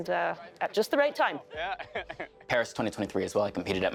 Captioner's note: laughing